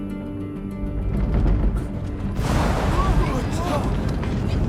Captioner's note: rumbling